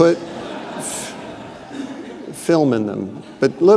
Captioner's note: audience laughing